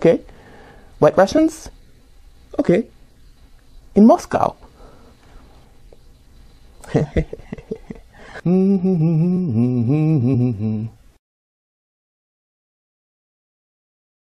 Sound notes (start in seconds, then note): 8.9 Marcel hums to himself at show close